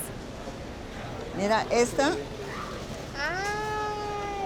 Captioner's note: speaking Spanish